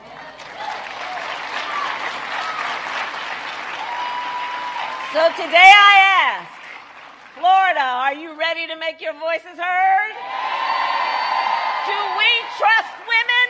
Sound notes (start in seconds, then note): 6.8 applause